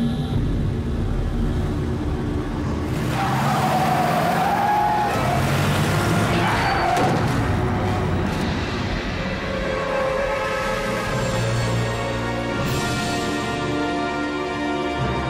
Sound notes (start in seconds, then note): 2.8 tires squealing; 7.1 body thuds; 9.2 tense ominous music